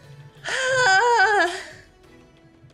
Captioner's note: wails